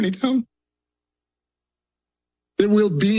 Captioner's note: pause